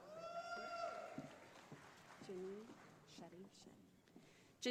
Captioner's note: audience applauding